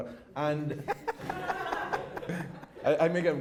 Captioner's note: laughter